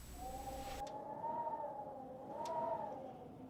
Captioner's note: wind wailing